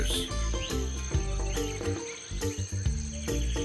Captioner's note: birds chirping